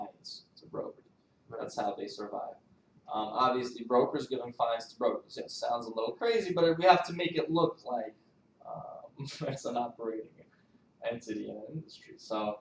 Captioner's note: laughs